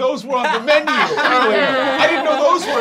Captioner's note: laughing